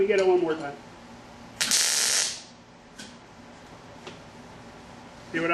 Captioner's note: welding